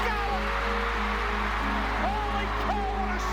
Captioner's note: crowd cheering